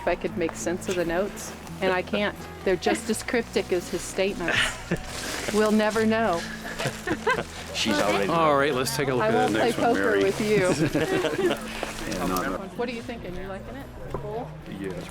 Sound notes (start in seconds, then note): 6.3 laughs